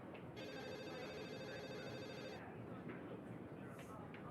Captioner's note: phone ringing